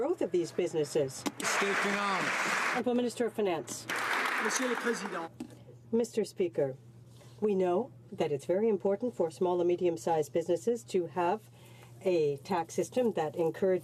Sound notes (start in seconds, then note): 3.8 some Applause